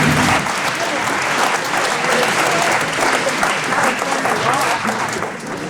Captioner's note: background chattering